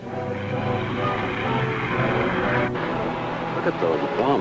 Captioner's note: car engine revving